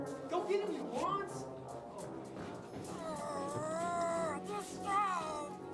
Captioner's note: groaning